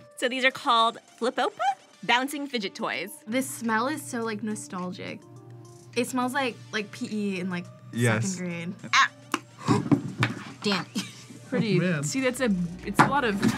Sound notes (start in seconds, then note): 9.1 gasps; 10.9 laughs